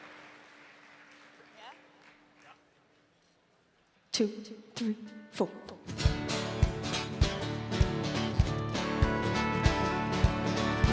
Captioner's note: cheering and applause